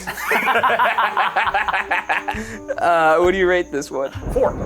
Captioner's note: all laughing